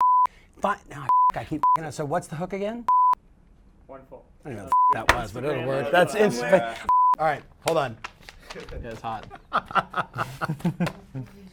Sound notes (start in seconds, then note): 0.0 beep; 2.9 beep; 4.7 beep; 7.6 paper rustling; 9.1 laughter